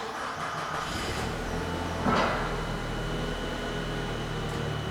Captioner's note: forklift engine starting